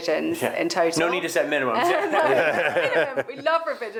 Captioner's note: laughing